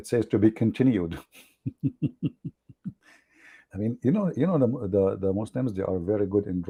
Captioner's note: Ketawa